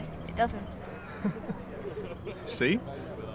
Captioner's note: laughing